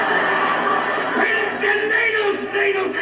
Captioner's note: laughter